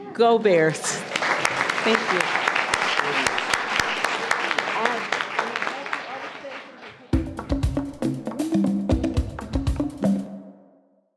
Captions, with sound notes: Go Bears! (applause) Thank you. (applause) (upbeat music)